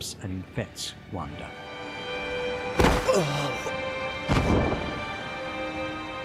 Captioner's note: emotional music; Wander groans and collapses